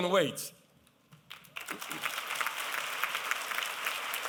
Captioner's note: applause